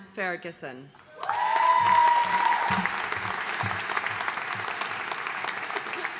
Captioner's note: audience cheering and applauding